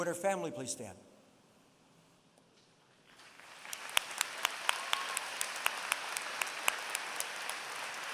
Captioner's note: applause